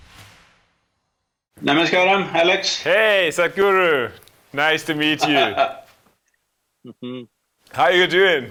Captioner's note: Sadhguru laughs